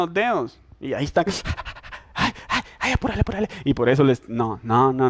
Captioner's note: suffering noises